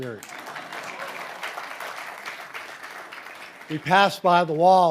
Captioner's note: audience applauding